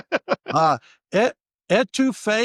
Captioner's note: laughing